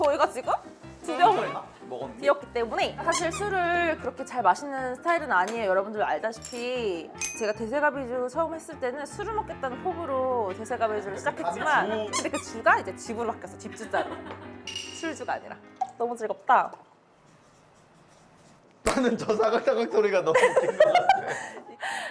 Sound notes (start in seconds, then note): 17.2 sound of writing with marker on a sketchbook